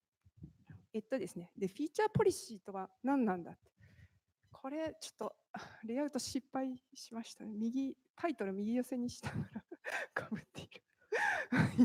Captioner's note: speaking japanese